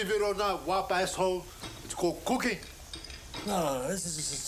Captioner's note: none